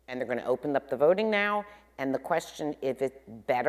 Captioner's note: none